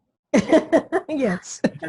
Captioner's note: laughs